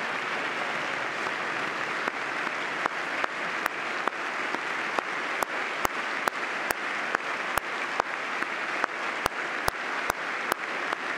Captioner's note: applause